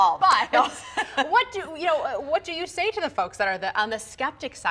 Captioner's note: laughter